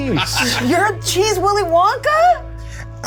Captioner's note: Bobby laughs